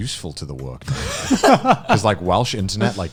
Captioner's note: laughing